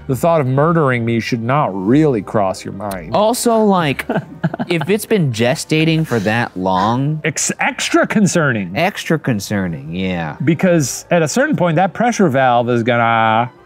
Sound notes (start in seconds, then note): 3.9 laughs